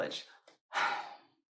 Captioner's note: sigh